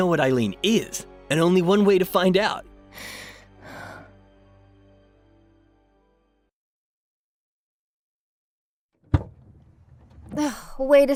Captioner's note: breathing heavy